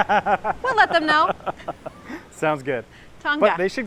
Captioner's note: laughter